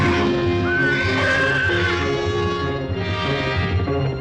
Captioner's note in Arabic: صهيل الحصان